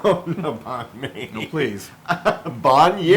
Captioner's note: laugh